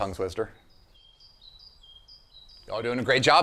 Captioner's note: birds chirping